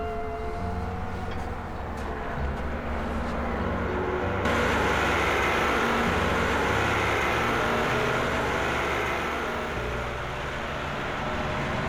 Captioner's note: tractor approaching